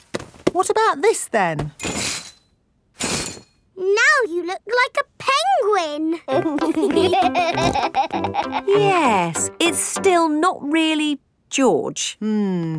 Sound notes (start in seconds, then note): 6.2 laughing